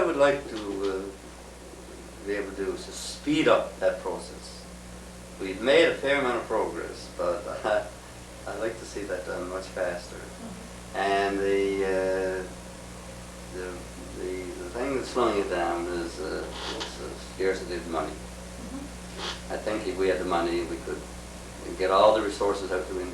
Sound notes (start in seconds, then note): 8.1 laughs